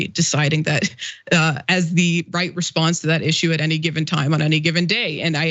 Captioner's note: laugh